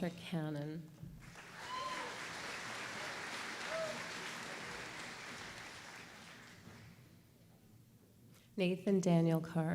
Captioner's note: applause